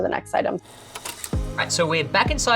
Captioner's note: shutter clicking